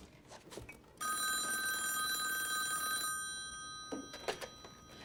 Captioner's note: phone rings